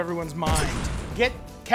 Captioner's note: fire bursts